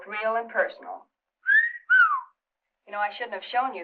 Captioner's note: whistling